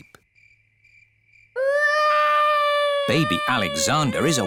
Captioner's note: baby alexander crying